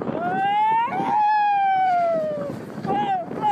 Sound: screaming

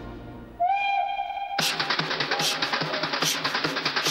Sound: train Horn Blowing

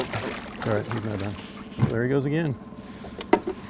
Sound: fish splashing

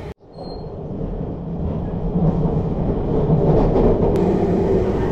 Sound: train rumbling

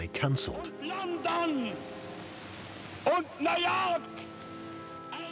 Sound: speaking German

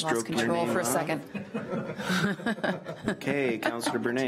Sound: laughs

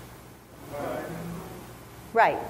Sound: crowd

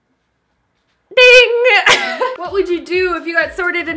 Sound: laughs

